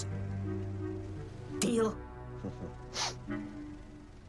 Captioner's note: chuckles